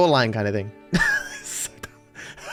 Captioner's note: laughing